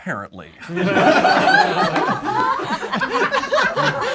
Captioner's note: group laughs